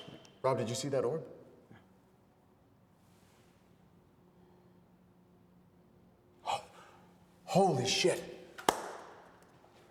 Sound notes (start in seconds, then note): 6.5 Wes gasping; 8.6 Wes claps